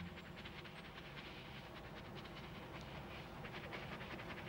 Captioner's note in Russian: Дыхание собаки